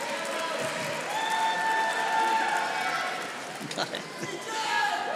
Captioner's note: audience applauding